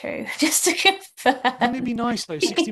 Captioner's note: laughs